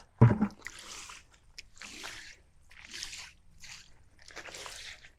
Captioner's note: water sloshing